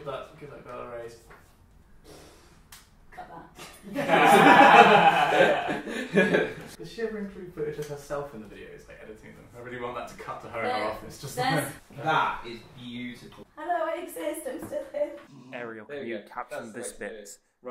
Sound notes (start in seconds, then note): 2.3 raspberry noise; 3.7 laughter